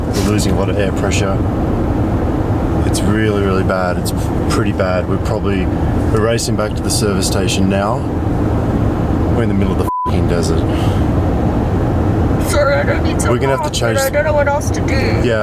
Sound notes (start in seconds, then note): 9.8 beep